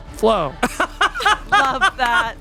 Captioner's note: laughing